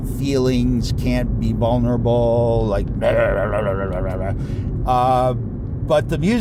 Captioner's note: grunt noises